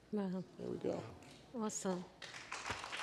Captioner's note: applause